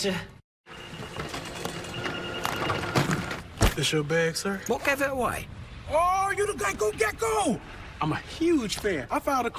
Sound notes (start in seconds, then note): 0.8 security check noises